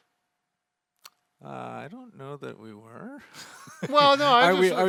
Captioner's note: chuckles